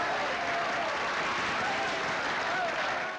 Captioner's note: applause